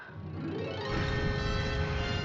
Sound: explosion

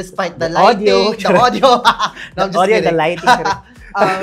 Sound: laughs

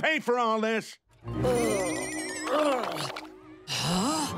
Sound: groaning; gasps

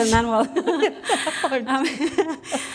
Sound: laughter

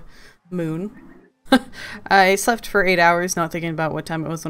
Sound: laughs

